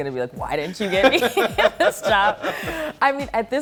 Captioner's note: laughs